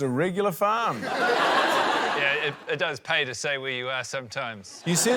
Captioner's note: laughter